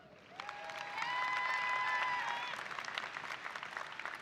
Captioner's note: audience applauding